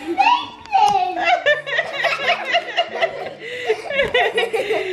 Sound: laughs

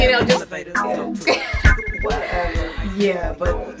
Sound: phone ringing

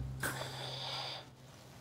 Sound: inales

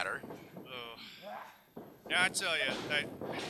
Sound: sighs

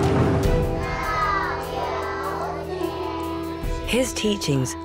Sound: children reciting in Chinese

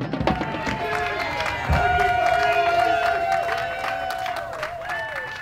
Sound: crowd cheering

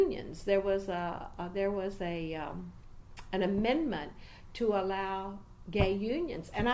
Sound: resumes tapping table

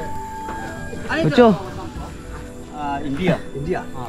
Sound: flute music; men speaking in Mentwai

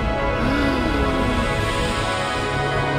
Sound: flint gasping in disbelief

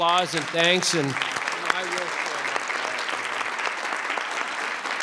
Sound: crowd clapping

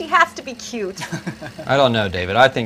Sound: laughter

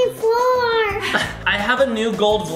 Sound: parents laugh

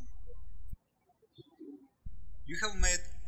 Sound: birds chirping

